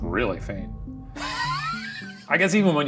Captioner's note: Ryan laughs